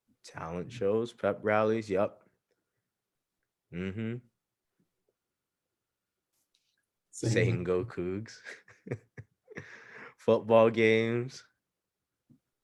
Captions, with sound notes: Talent shows, pep rallies, yup, mm-hmm. Saying "Go Cougs." (laughs) Football games.